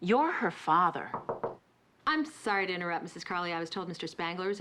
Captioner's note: knock on door